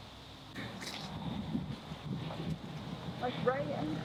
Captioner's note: wind Blowing; squish Sound